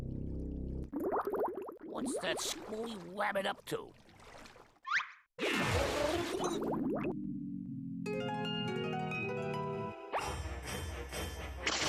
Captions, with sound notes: [bubbling] WHAT'S THAT SCREWY RABBIT UP TO? [bubbling]